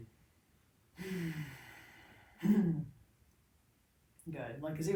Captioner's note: loudly sighs